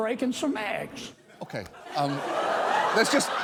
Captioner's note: audience laughing